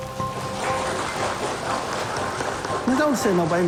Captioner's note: sounds of clapping